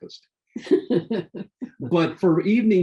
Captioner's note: laughing